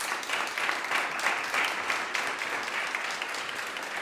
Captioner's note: applause